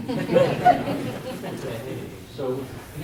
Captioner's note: audience laughs